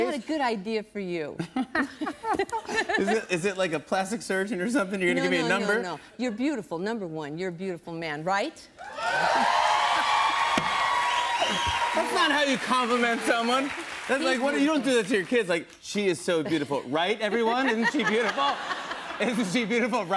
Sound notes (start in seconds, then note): 1.4 both laugh; 8.8 cheers and applause